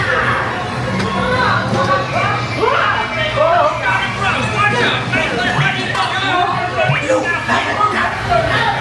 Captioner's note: people shouting